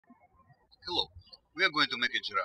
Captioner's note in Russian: птички щебечут